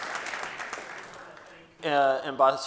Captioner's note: speaking faintly